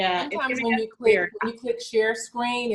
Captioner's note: chattering